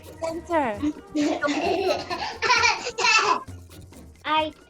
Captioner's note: laughing